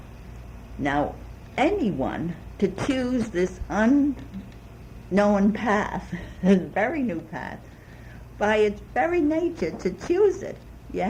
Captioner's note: laughs